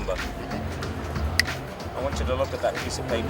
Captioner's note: finger snapping